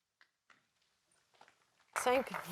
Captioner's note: applause